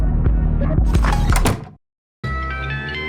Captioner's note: Half-Life 2 door opens and closes